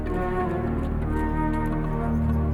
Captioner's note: horse hooves